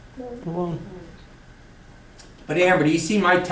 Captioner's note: students mutter